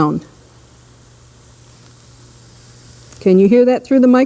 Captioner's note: acetone fizzing